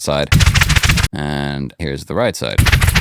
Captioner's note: rattling